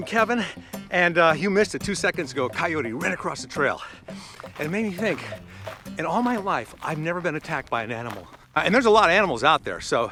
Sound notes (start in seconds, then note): none